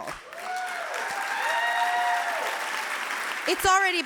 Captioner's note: clapping